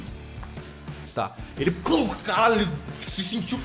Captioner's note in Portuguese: pow